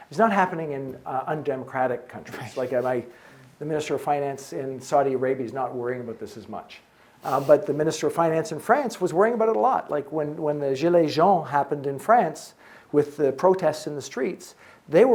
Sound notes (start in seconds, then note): 10.8 speaks in French